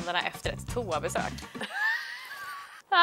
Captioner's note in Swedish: Skratt